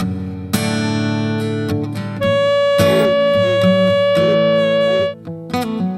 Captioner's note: horn blowing